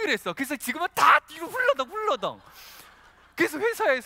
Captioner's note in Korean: 웃음